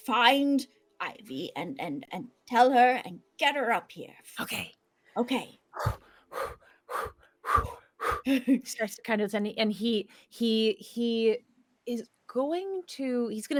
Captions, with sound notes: Find Ivy and and tell her, and get her up here. - Okay. - Okay. (Pivam breathes deeply) - He starts to kind of, and he, he is going to, he's gonna say,